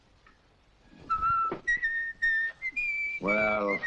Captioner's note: boy whistles